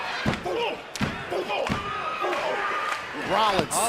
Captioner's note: crowd chatter